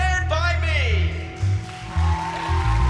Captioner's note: cheering